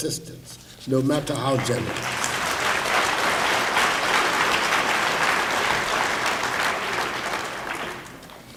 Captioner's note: applause